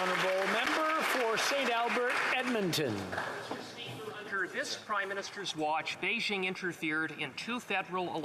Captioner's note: applause